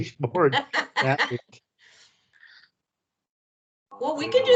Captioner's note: laughs